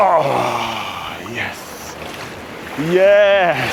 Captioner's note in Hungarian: nyögés